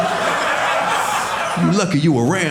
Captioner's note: audience laughing